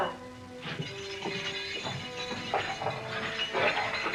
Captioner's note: keys jiggling